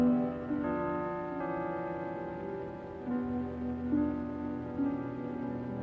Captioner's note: bells ringing